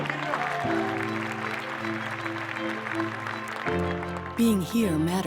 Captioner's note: audience applause